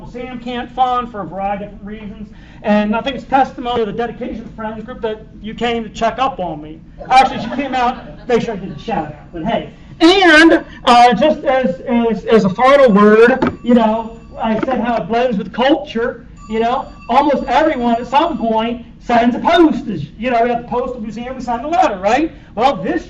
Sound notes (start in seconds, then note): 7.0 laughter; 16.7 phone rings